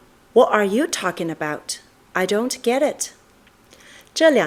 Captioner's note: is speaking in English